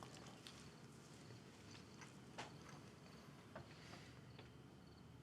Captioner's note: insects chirping